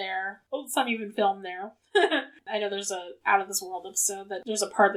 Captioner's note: laughs